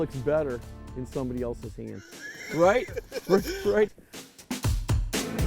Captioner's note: laughing